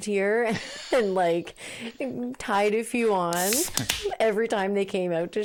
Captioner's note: beer can opening